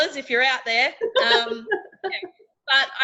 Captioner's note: laughing